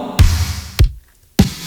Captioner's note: tapping